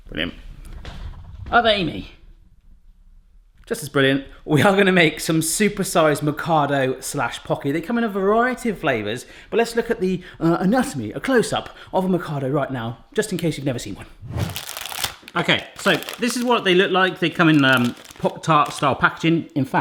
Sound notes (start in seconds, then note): none